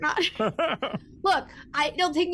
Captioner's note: Omega laughs